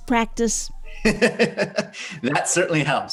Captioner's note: laughing